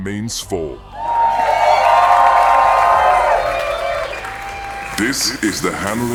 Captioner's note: audience Cheering